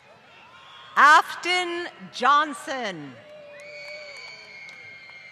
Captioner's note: applause; applause